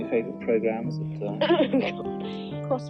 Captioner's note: giggles